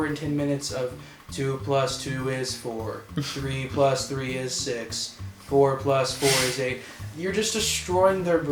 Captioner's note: monotone